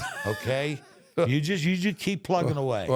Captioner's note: The Undertaker laughs